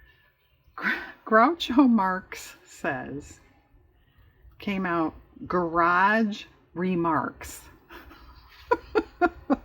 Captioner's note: laughs